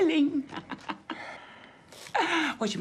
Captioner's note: Lisa laughing